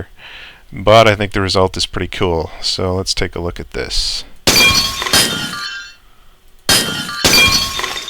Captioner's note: gunshots and shattering